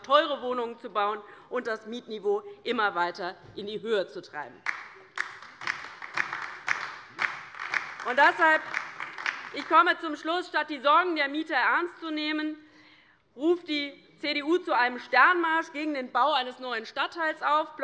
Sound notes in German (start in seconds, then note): 4.6 Beifall bei der LINKEN